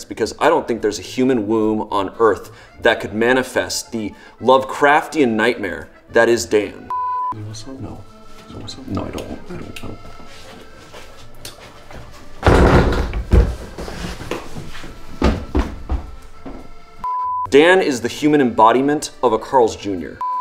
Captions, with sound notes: because I don't think there's a human womb on Earth that could manifest the lovecrafian nightmare that is Dan. (beep) - Do you want some? - No. - Do you want some? No, I don't want- I don't want that. (crash) (beep) Dan is the human embodiment of a Carl's Junior.